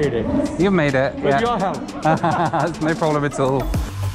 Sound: both laugh

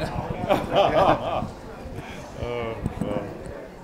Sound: laughs

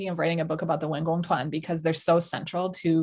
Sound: speaking in Mandarin

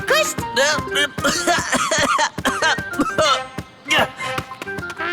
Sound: cough

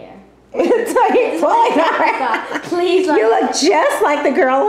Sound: laughter

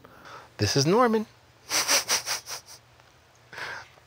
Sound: laughs

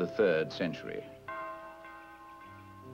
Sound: bells chiming

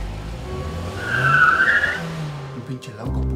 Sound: brakes screeching

